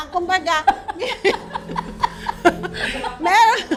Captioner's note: laughs